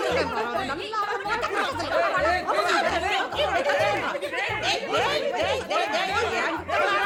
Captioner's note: general commotion